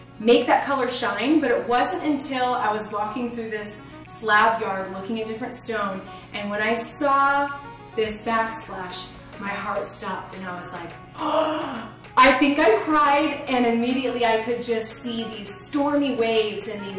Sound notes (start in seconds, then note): 11.2 gasps